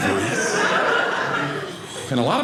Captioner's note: audience laughing